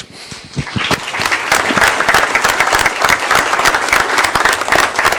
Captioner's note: applause